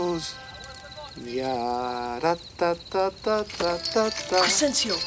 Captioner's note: Crecencio hums melodically